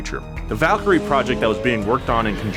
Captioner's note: car engine roaring